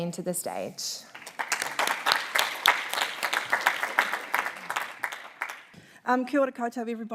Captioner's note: applause